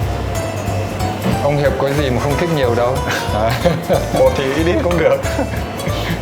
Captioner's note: laugh